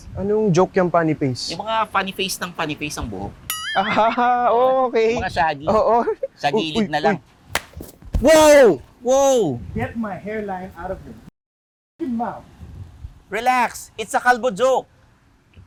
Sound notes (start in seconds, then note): 7.5 slaps